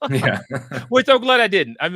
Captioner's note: laughs